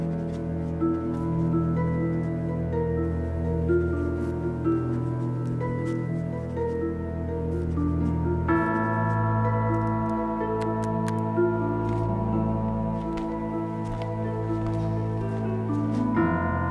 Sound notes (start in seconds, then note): 0.3 pen scribbles; 10.5 pen click